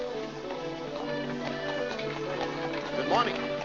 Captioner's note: hooves trotting